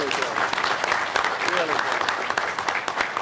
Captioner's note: applause